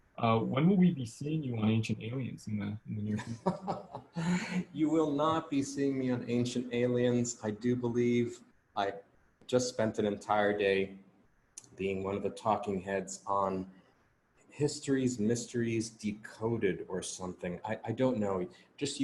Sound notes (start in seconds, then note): 3.5 laughing